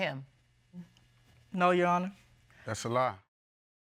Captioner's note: scoffs